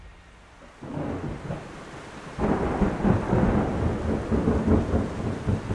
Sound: thunder rumbling

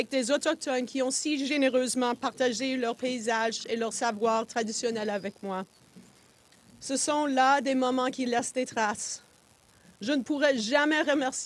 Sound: speaking French

